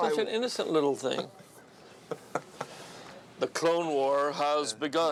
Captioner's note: laughing